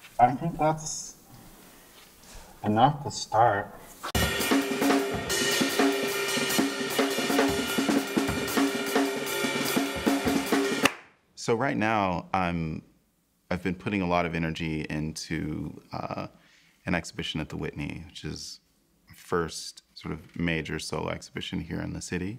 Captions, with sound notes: --I think that's enough to start. [DRUMMING] [CLAP] So right now, I've been putting a lot of energy into an exhibition at the Whitney, which is my first major solo exhibition here in the city.